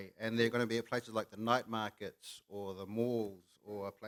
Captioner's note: none